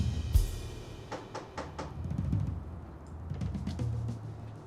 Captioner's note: knocks on door